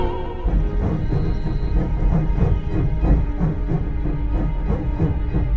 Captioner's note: train moving on a railroad